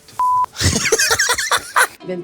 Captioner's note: laughs